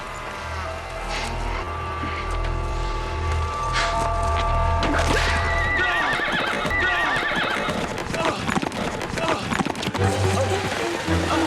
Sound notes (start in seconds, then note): 5.8 whacking, horse neighing